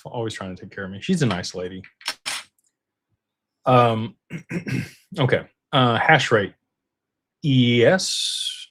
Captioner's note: clears throat